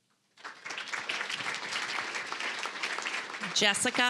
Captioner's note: applause